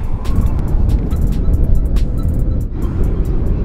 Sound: windy audio

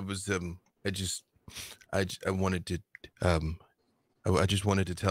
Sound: stutters

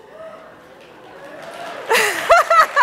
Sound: audience applauding; laughing

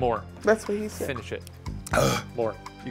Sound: sighing

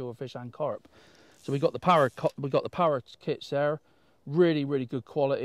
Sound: fishing pole rasps

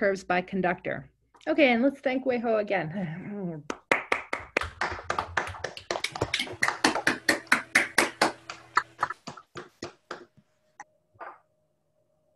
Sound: clapping

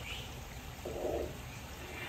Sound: insects and birds chittering

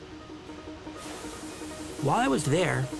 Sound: fan blowing

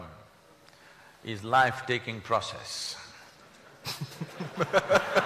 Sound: laughter/Applause

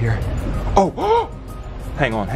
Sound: gasping

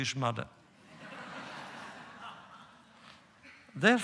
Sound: laughter

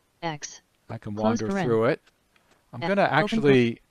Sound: synthesized speech

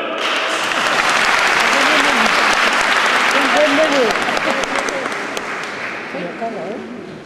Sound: applause from the audience before finishing

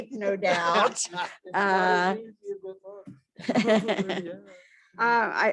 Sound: laughter; laughter

